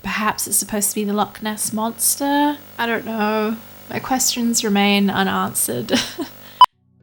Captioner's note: noises of dispair